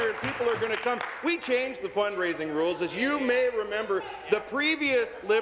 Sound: applause

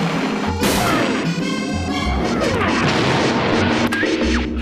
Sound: torpedo explodes

